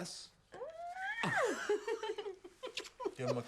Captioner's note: Shauna squeals; Loz laughs; Shauna laughs